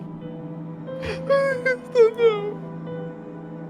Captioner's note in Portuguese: chorando